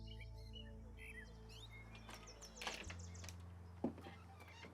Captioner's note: door creaks open